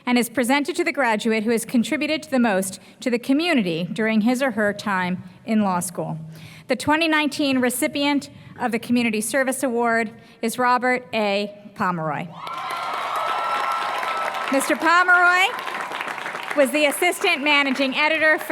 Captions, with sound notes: and is presented to the graduate who has contributed the most to the community during his or her time in law school. The 2019 recipient of the Community Service Award is Robert A. Pomeroy. [APPLAUSE] Mr. Pomeroy was the assistant managing editor